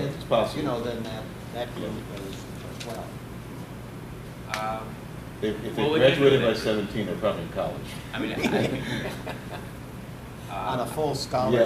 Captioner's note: laughs